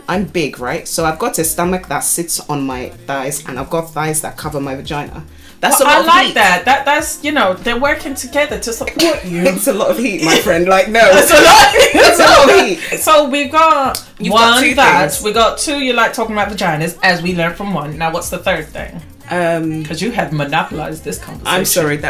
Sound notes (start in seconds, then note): 10.0 laughs; 11.1 laughter